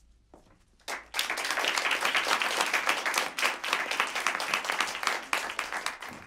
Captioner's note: applause